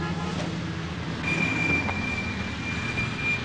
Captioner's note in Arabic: اصوات صرير الاطارات; صوت أبواق السيارة